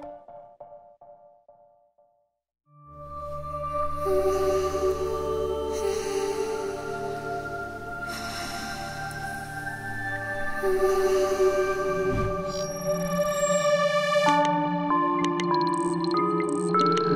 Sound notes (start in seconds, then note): 5.7 breathes heavily